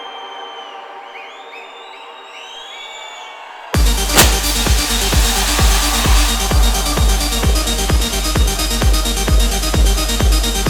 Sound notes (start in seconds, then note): 1.9 audience cheering; 4.3 techno music